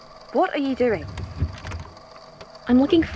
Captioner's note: drawers opening and closing